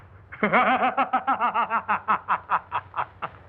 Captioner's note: maniacal Laughter